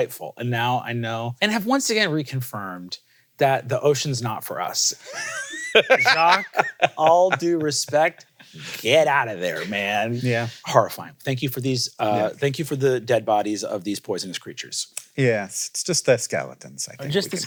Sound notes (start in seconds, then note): 5.0 laughs